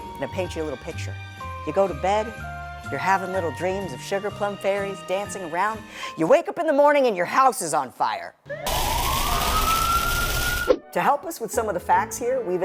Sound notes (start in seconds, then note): 8.5 sirens blare; 8.7 flames roar